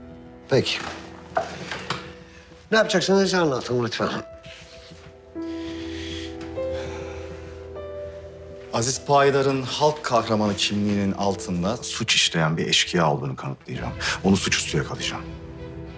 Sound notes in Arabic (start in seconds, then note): 5.4 كنان يتنهد